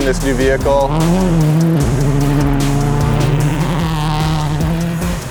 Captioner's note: car engine revving